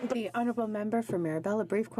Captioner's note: speaking French